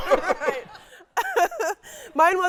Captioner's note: laughing